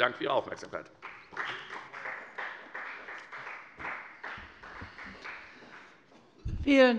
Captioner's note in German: Beifall bei der FDP